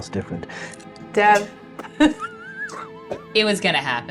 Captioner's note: laughs